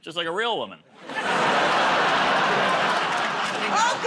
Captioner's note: laughter